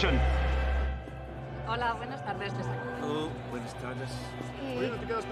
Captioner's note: Keduanya berbicara bahasa Spanyol